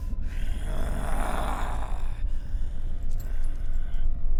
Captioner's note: Brocheet growls